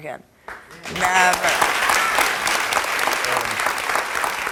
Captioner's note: crowd applauding